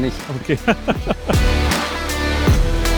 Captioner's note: laughter